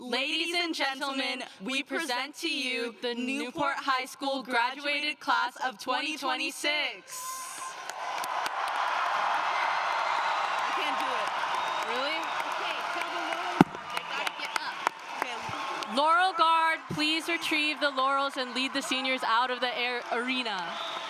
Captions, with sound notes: LADIES AND GENTLEMEN, WE PRESENT TO YOU THE NEWPORT HIGH SCHOOL GRADUATED CLASS OF 2026! [APPLAUSE] LAUREL GUARD, PLEASE RETRIEVE THE LAURELS AND LEAD THE SENIORS OUT OF THE ARENA.